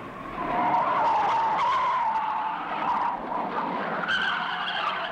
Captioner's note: tires squealing